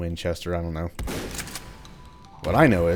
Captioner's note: shotgun blasting